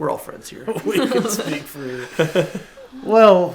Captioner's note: laughs